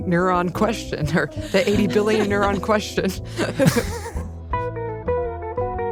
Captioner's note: laughs